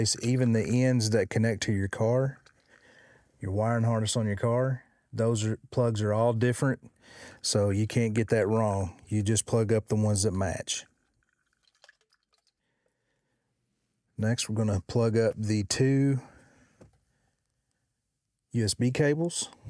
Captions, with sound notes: Even the ends that connect to your car, your wiring harness on your car, those plugs are all different. So you can't get that wrong. You just plug up the ones that match. (water splashing) Next, we're gonna plug up the two USB cables.